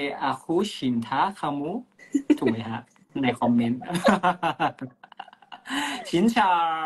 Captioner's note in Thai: เสียงหัวเราะ